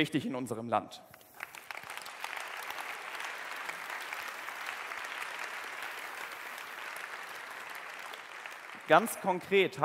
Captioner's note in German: Applaus